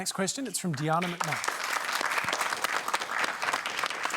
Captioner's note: applause